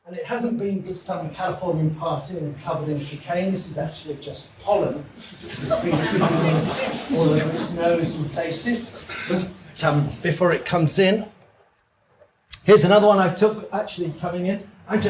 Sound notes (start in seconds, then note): 5.3 audience laughs